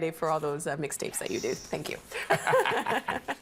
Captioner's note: laughing